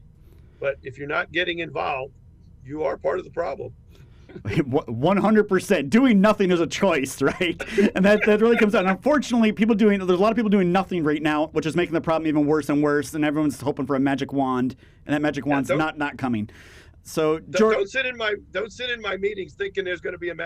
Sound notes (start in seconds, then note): 11.4 laughs; 15.5 laughs